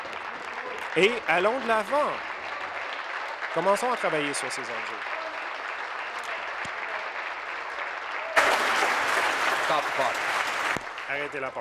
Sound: applause; continued applause

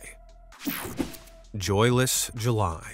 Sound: screen whooshing

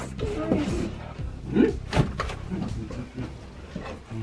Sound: dad humming

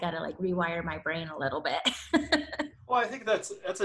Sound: laughs

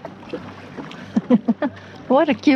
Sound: sound of splashing water, laughter

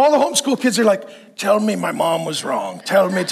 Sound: congregation laughing

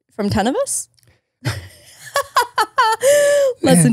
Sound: laughs

